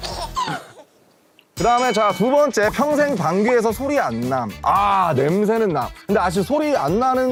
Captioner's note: هه‌هه‌هه